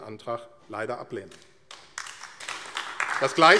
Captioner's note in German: Beifall AfD